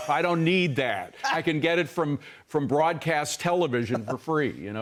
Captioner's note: laughter